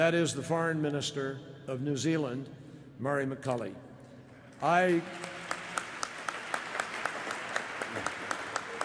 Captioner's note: applause